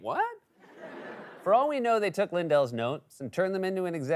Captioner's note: laughter